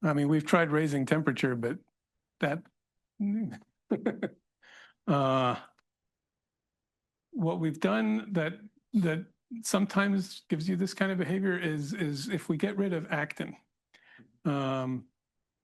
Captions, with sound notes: I mean, we've tried raising temperature, but (laughs) what we've done that sometimes gives you this kind of behavior is if we get rid of actin